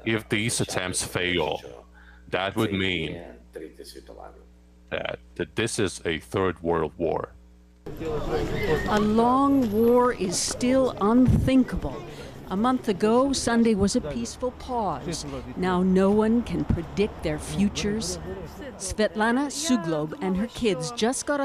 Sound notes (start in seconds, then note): 1.8 speaking Foreign Language